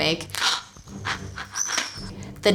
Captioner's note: excitedly panting